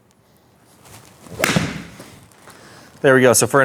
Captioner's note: golf ball pings